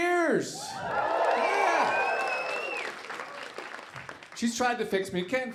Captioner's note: audience applauding